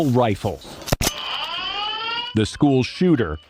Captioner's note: alarm ringing